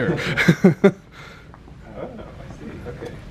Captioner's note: they laugh